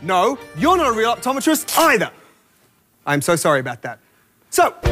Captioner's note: fabric rips